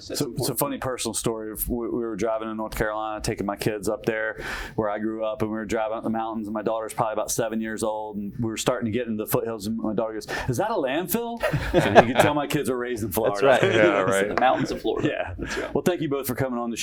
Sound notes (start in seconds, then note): 11.4 laughter; 13.0 chuckles